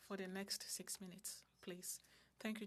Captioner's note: speaking french